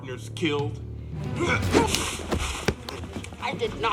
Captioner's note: grunting